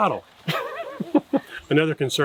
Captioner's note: laughing